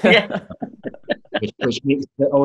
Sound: laughter

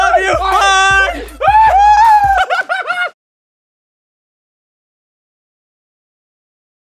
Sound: exclaiming; laughing

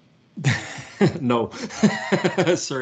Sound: laughs

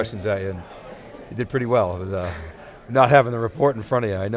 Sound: chuckling

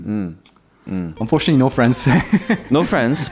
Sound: chuckles

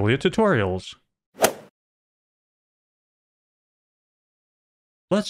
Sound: golf ball hit sound

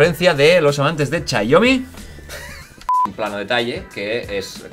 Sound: Risas

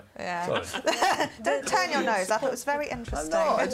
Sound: laugh

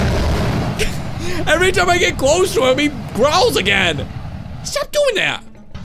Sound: dragon roars; laughs

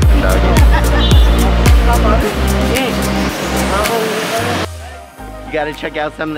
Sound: upbeat music; background chatter

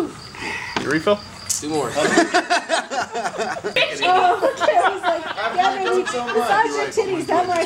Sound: crowd laughs

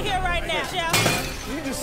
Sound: crash

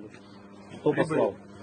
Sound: speaking Foreign Language

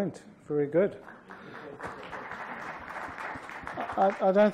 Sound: applause

